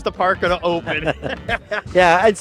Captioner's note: both laughing